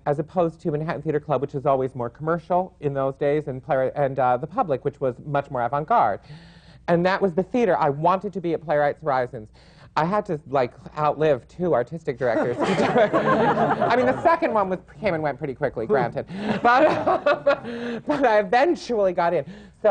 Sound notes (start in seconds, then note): 12.3 laughter; 16.4 laughs